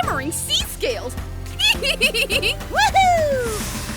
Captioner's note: chuckling